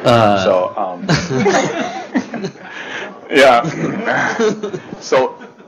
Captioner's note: laughter